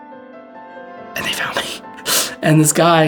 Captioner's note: whispering